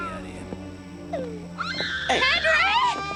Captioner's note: Henry screaming